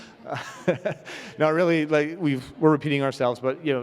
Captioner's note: chuckles